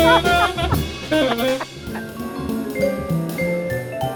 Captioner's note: laughing